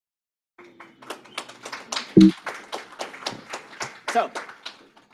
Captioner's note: applause